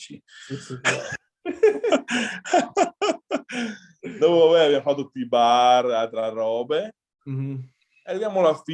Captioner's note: laughs